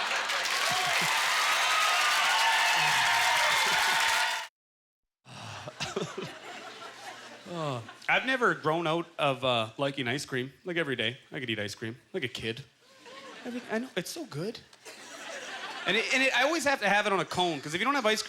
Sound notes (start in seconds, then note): 0.0 audience laughter; 0.0 applause; 5.6 laughing